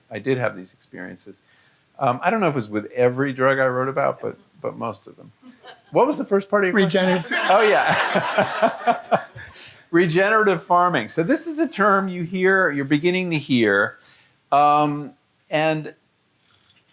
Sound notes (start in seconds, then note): 7.1 audience laughing; 9.8 laughing